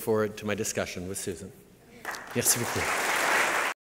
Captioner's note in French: Applaudissements